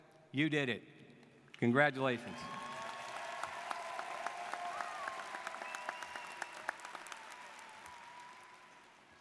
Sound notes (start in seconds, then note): 2.2 students cheering and applauding